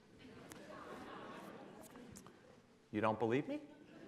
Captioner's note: laughing